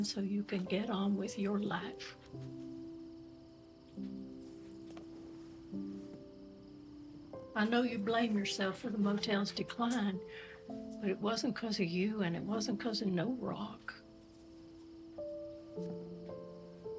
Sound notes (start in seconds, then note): none